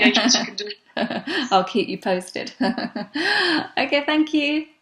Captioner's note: laughs